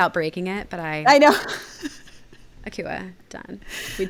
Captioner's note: laughing